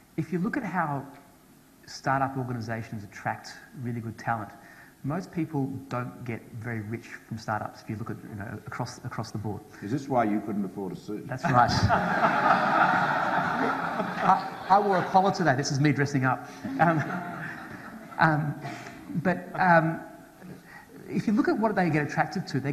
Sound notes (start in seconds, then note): 11.4 audience laughs